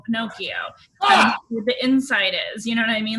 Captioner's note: man laughs